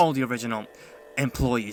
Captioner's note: breath.mp3